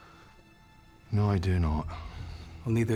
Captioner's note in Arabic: لهجة اسكتلندية